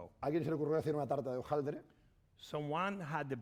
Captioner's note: speaking spanish